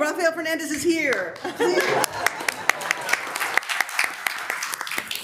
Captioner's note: members applauding